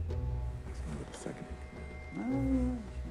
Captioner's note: Falco whispers